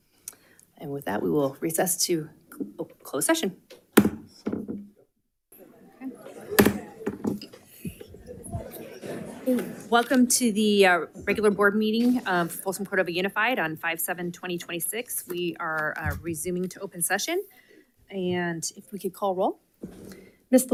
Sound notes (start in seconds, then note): 3.9 gavel thwacks; 5.5 light chatter; 6.5 gavel thwacks